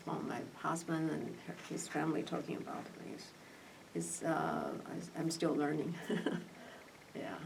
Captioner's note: laughs